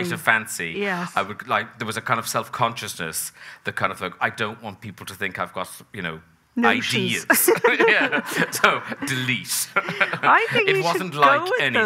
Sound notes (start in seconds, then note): 7.3 both laughing